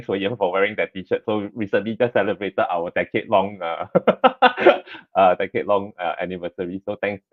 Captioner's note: laughs